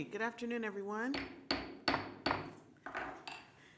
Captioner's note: banging gavel